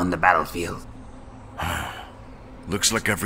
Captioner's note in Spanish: Suspiro